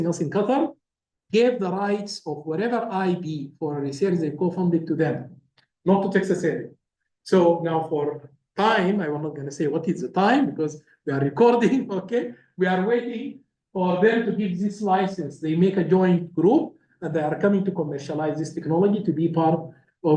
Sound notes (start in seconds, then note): 12.6 laugh